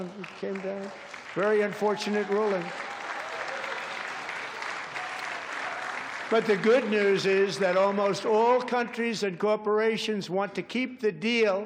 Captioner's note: applause